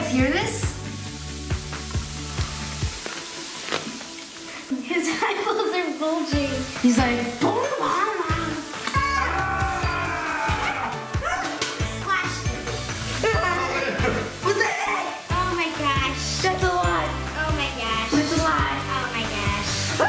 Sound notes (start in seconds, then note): 1.7 fizzing; 9.0 yells